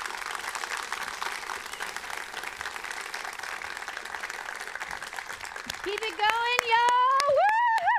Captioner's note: applause